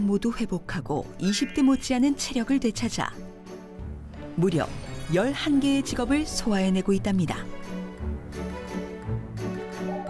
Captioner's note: voiceover